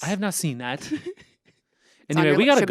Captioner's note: Anthony laughs